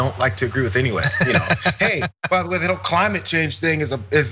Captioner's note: laugh